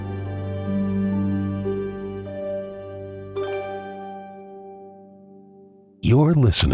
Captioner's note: bell Dings